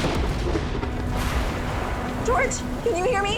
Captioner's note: heavy thunderstorm